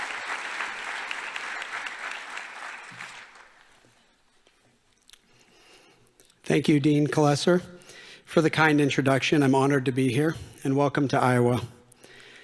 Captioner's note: applause